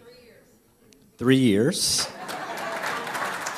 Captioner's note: applause